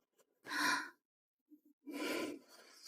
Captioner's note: gasp